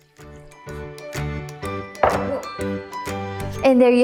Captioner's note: skillet thuds